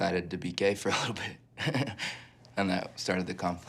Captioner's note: Risos